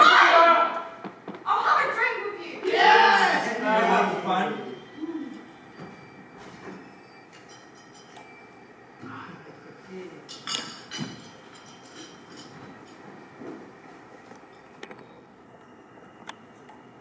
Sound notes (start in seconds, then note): 2.6 cheering; 10.3 teacups clatter